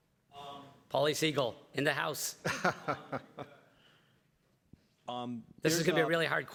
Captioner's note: everybody laughs